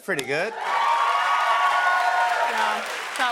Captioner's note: cheers and applause